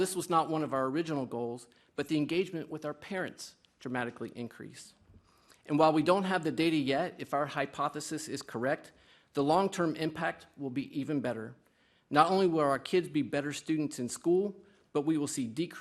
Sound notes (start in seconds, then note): none